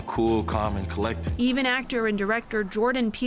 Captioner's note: voice-over